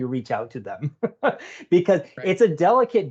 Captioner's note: laughing